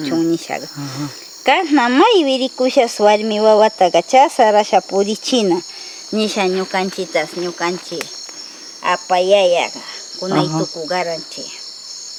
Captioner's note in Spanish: ajam